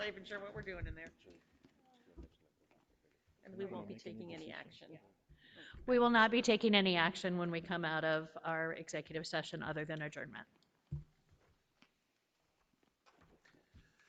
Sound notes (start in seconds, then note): 1.6 group chattering